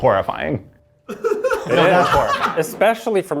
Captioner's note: laughs